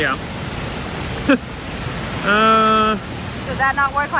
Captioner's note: laughs